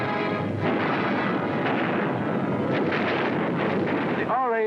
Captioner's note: explosions